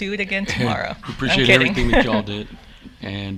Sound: chuckles

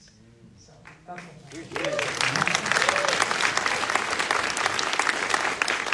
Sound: audience applauding

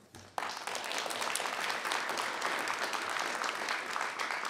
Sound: audience applauding

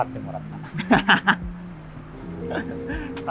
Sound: laughing

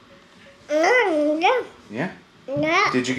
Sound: speaking gibberish

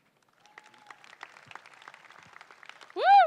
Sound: crowd applauding

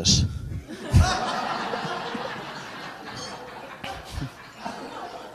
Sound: audience laughs

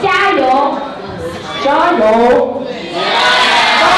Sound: foreign language

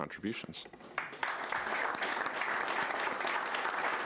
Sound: applause

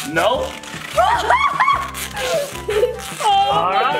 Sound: mom laughs

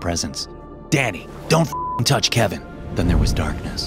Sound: beep

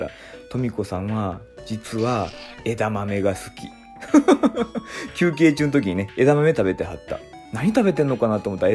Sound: laughs

